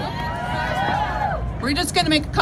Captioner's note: crowd cheers